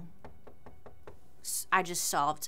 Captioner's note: door knocking